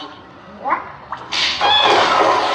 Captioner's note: screams